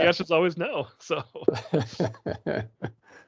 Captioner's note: laughing